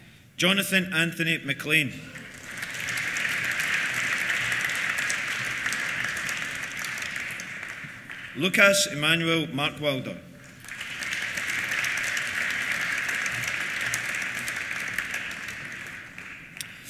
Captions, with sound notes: Jonathan Anthony MacLean. (APPLAUSE) Lukas Emanuel Markwalder. (APPLAUSE)